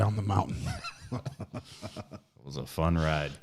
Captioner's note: chuckles